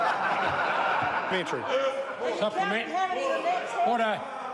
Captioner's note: members laugh and shout